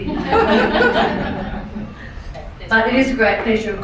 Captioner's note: laughing